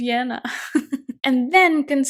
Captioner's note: chuckles